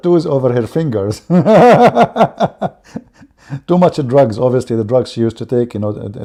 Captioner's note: Ketawa